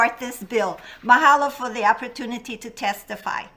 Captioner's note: speaks in a foreign language